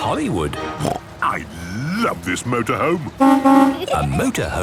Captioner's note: honking